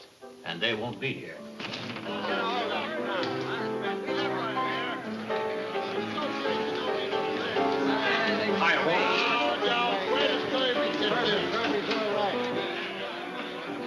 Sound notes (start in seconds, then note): 1.0 lively piano music; 1.0 patrons chattering